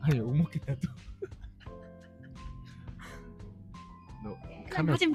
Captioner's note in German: laughs